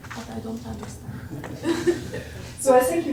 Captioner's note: laughter